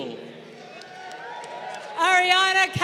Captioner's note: crowd cheering